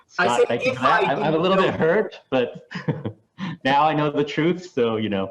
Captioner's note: laughs